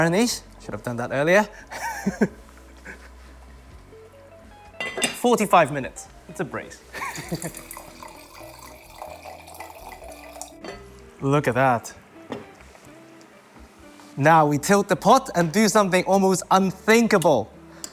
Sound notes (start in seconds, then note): 1.7 chuckles; 6.8 laughs